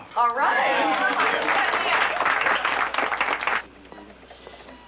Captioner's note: applauding